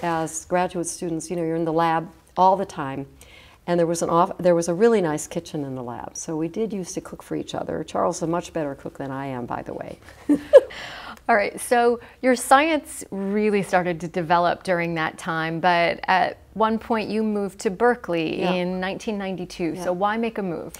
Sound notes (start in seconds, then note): 10.2 chuckle